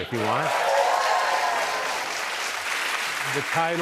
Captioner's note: cheers and applause